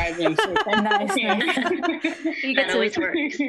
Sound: laughter

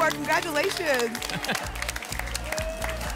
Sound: applause and cheering

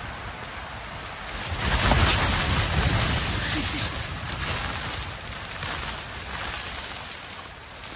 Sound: laughs; sound of wind rustling the tent and snow sliding down

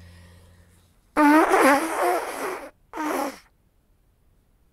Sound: blows nose

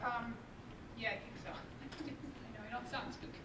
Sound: laughs

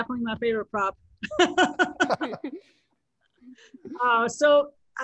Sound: laughs

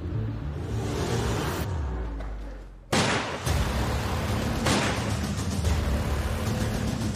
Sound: ominous music; gun blasts

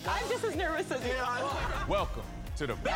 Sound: laughter

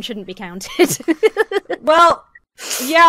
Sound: laughs

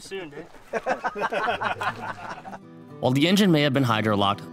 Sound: all laughing

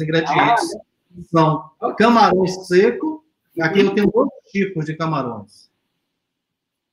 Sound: speaks portuguese

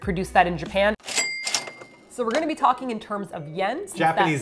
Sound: ka-ching!

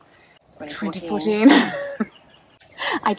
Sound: laughs

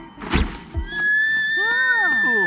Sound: screams

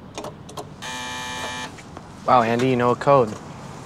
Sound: gate buzzes

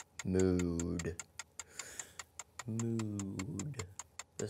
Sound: ticking

